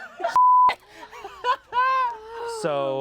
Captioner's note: beep